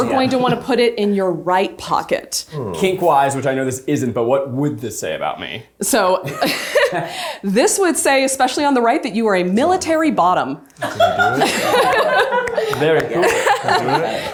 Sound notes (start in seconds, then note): 10.8 everyone laughs